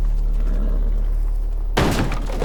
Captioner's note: door busts open